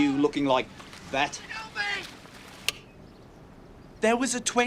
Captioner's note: pause switch clicks